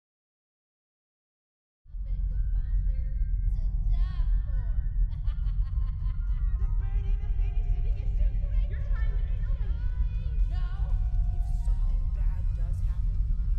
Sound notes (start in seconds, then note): 2.0 distant cacophony of voices